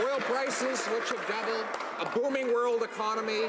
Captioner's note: some Applause